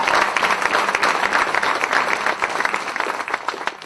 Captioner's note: cheers and applause